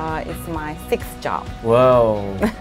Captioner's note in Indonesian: keduanya tertawa